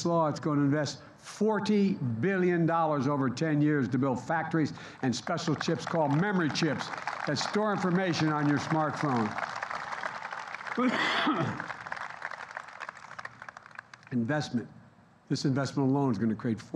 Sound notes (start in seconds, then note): 9.8 applause